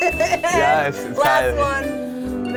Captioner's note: laughing